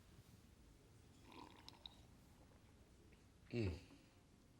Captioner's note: Coleman slurps